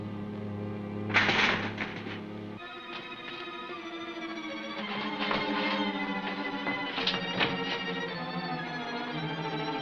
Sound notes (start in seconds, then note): 1.1 clattering